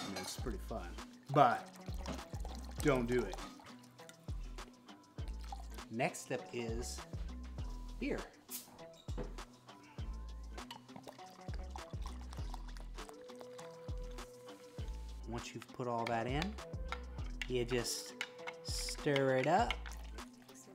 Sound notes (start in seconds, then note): 10.6 beer gurgling